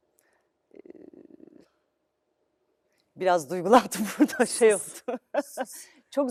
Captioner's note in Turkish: kahkaha